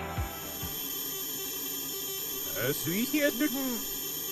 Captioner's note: ZX81 loading sounds